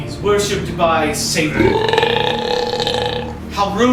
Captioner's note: animal belching